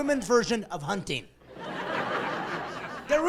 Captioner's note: laughing